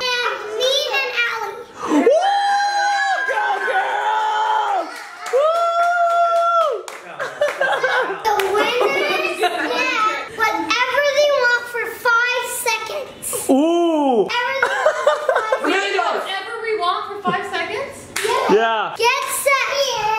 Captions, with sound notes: And me and Alli (crowd cheering) - Go, girls! - The winners get whatever they want for 5 seconds. - Ooh - A million dollars. - We get whatever we want for 5 seconds? - Yeah - Get set, go!